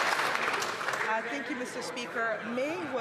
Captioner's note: some Applause